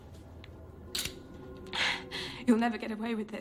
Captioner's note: gun clicks